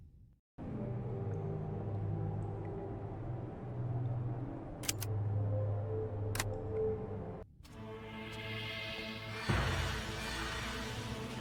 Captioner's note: creepy ambiance